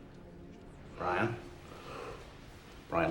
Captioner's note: none